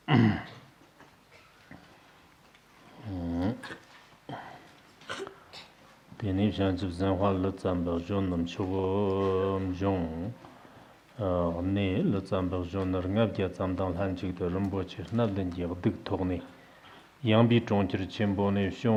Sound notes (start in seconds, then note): 6.2 giving oral transmission in Tibetan